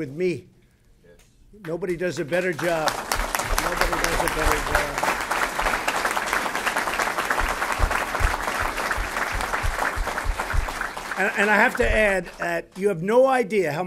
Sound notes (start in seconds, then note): 2.8 applause